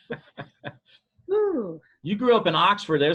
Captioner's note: laughter